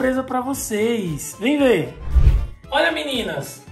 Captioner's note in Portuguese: Efeito sonoro de transição